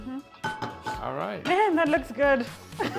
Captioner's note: laughs